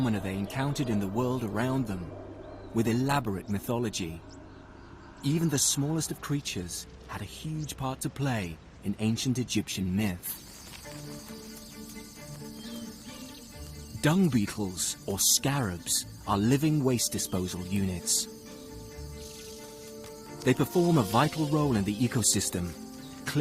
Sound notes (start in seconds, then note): 11.0 insects buzzing; 11.0 tense music